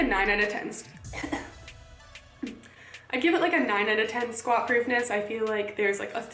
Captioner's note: coughing